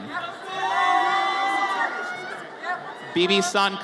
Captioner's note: audience cheers